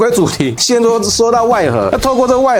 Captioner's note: I'm so angry that I can't speak clearly